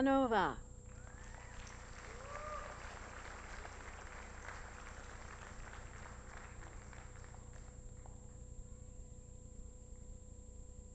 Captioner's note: applause